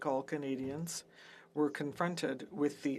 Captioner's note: speaking French